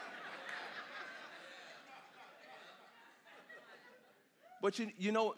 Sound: congregation laughs

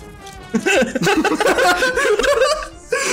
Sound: laughter

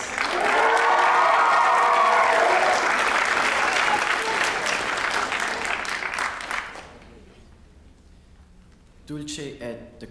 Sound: applause

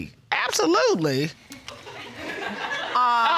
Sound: audience laughing

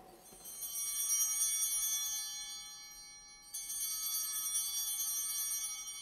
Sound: bell ringing

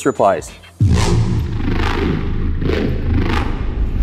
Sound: engine roaring

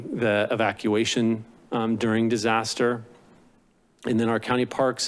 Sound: clearing throat

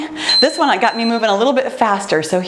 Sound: timer beeps

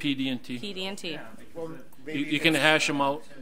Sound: overlapping chattering

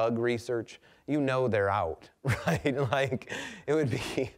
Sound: laughing

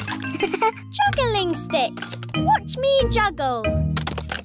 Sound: chuckles

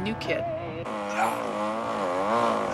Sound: saw buzzing; grunts

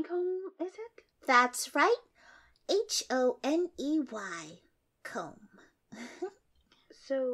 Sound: giggle

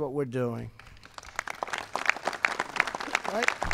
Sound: applause

